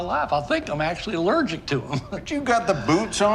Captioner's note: laughing